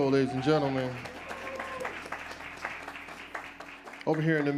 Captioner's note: audience applauds